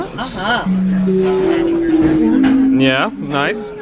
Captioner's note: PA system chimes